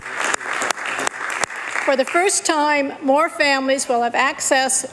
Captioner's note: applause